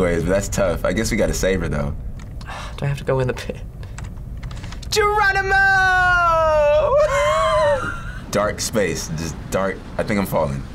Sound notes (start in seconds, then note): 2.4 sighs; 6.8 laughs